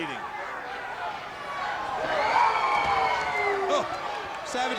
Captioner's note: crowd cheering